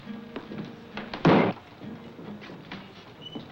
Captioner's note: slams